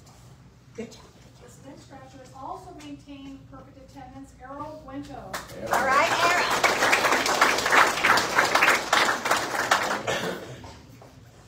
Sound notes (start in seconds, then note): 5.6 audience applauds